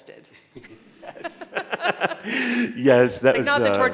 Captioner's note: both laughing